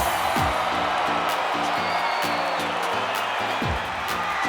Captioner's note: crowd cheers